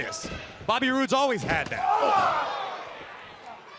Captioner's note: crowd chatter